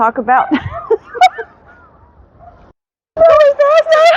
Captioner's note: laughing